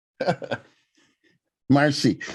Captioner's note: laughs